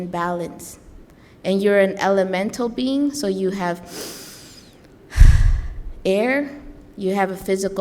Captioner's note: breathes in and out